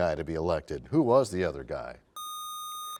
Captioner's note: none